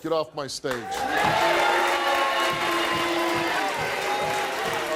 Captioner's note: audience applauding